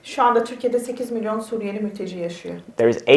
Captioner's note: speaks in Turkish